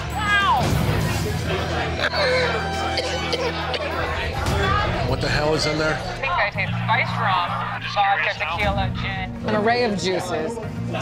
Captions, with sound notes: - Wow. (Man With Tattoos Coughs) - What the hell is in there? - Spiced rum, tropic yellow gin, an array of juices,